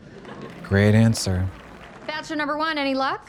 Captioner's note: audience applauds